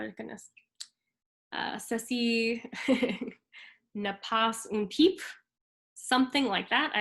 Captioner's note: speaks in foreign language